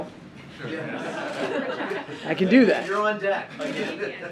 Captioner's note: laughter